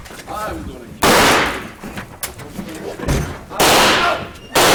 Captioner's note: gun shots